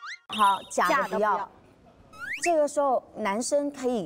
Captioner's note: reply in unison